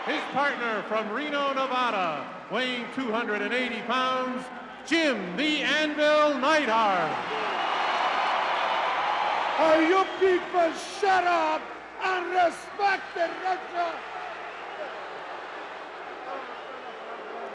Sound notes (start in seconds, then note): 7.1 crowd cheering